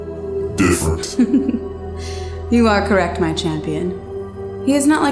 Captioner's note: chuckles